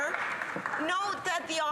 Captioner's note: some Applause